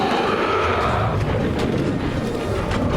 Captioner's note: roaring